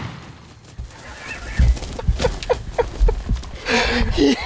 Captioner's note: laughter